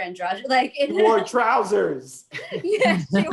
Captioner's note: laughing